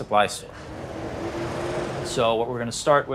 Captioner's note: traffic humming